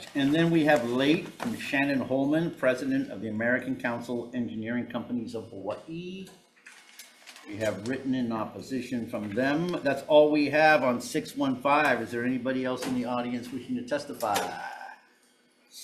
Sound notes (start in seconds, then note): none